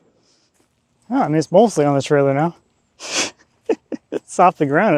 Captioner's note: laughs